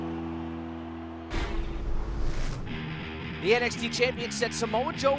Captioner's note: crowd cheering